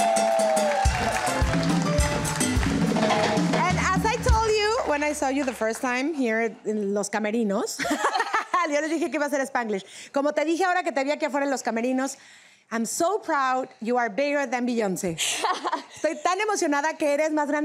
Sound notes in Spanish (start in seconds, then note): 3.1 Hablan en inglés; 12.2 hablan en inglés